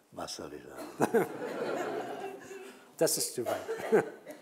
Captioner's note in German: und Publikum lachen